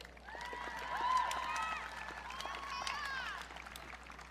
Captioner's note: audience cheering